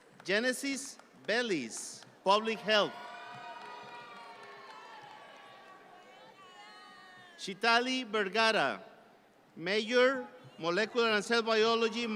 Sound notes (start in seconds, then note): 0.0 audience clap; 2.4 audience cheer